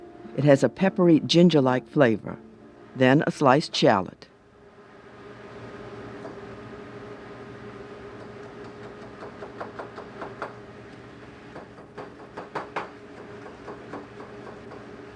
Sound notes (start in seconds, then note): 6.0 chopping